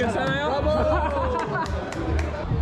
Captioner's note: laughs